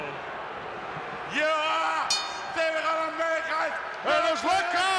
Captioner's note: Nikolai speaks Russian; bell rings